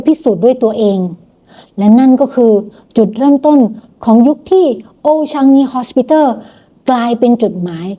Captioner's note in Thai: เสียงสูดหายใจ